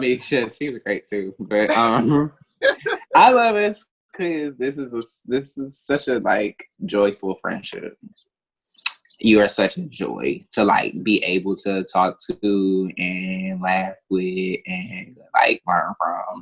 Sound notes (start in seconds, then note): 2.6 both laughing